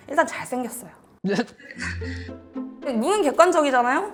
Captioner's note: maybe an excited sound